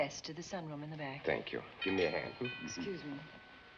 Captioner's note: doorbell ringing